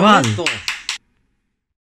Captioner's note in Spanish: se oyen aplausos